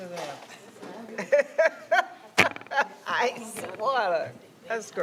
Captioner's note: others chatting indistinctly; laughing